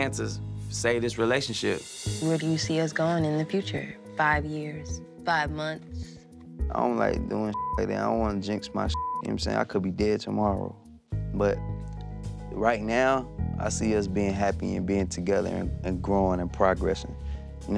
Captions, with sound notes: to save this relationship. - Where do you see us gone in the future? Five years, five months? - I don't like doing (beep) like that. I don't want to jinx my (beep), you know what I'm saying? I could be dead tomorrow. But right now, I see us being happy, and being together, and growing, and progressing.